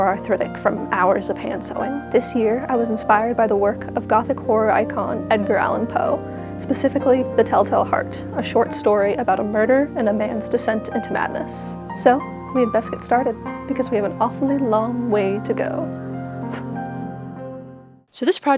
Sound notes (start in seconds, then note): 16.4 sound of the candle being blown out